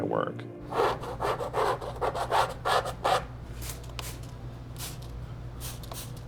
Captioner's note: ^scratching^